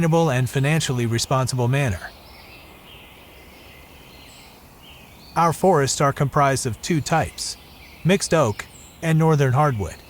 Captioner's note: bird song